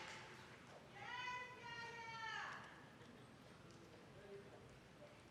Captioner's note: lady shouting